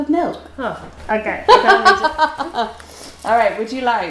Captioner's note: laughs